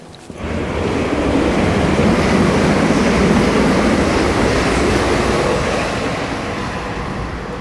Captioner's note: sound passing train